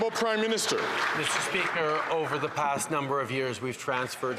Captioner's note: some Applause